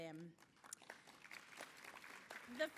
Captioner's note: applause